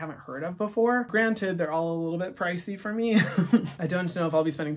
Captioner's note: laughs